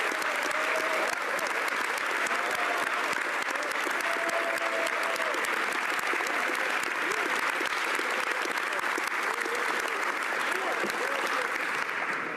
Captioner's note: applause